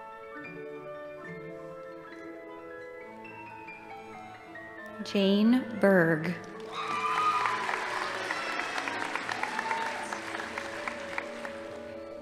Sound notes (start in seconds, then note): 6.5 audience applauding; 6.6 crowd cheering